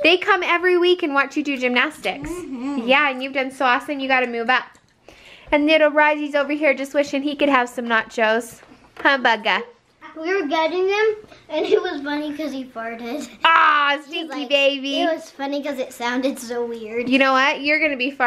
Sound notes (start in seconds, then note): 13.4 laughs